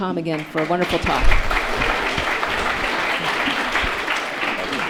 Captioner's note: audience applauds